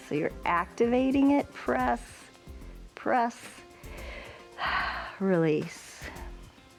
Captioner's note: exhales